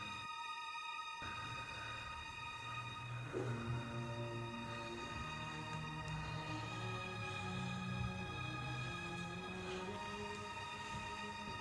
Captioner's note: labored breathing